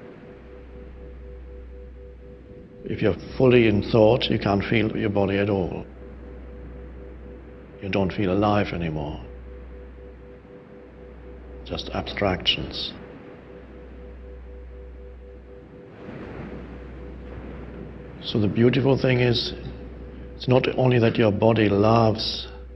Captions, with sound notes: If you're fully in thought, you can't feel your body at all, you don't feel alive anymore. Just abstractions. (soft music) (waves breaking distantly) So the beautiful thing is it's not only that your body loves